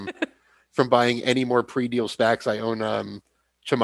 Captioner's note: laughs